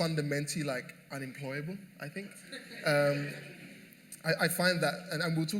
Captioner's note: laughter